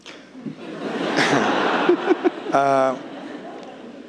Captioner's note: audience laughing